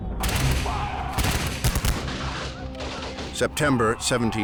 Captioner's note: gunshots firing